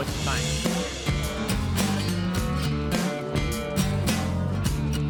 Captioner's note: cattle lowing